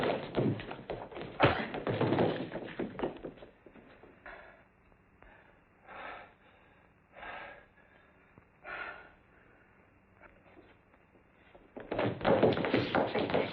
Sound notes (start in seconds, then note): 5.2 labored breaths